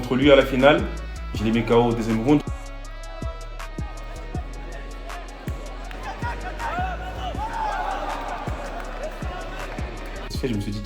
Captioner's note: applause